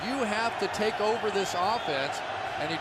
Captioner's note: cheering